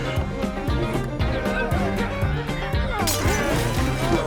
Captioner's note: upbeat country music; zombies grunt; glass shatters